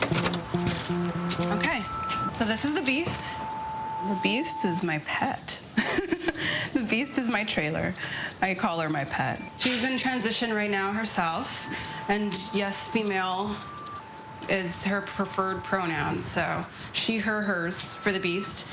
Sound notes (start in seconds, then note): 5.7 laughs